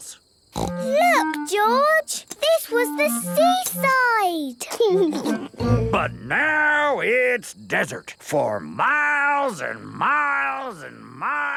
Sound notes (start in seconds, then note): 4.7 laughing